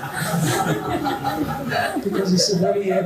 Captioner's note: laughter